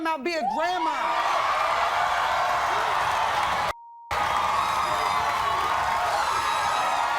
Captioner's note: audience cheers; beep